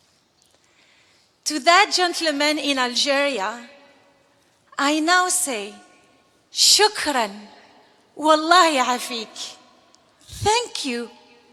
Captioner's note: non-english speech